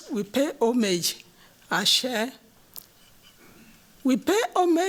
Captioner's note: non-english